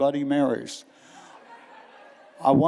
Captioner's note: laughter